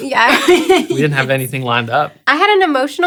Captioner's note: laughs